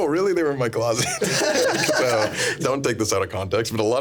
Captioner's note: everyone laughing